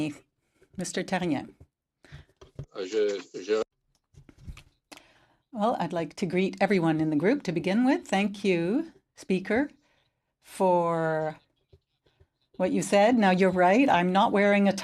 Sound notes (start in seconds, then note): 3.4 speaking French